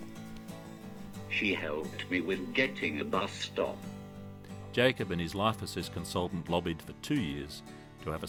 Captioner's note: voiceover